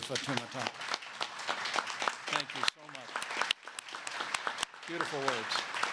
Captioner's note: applause